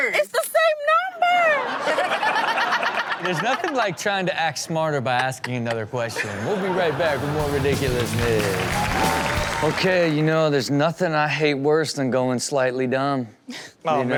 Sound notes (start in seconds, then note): 1.6 audience laughs; 8.4 audience applauds and cheers; 8.4 upbeat intro music